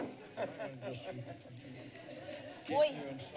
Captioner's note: laughter